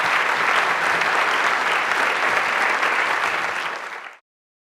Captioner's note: audience applauding